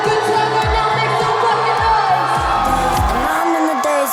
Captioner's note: people cheering